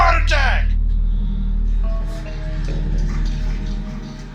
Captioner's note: screaming